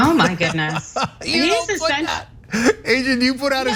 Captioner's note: laugh